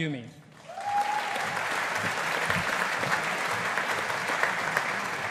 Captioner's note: audience applauding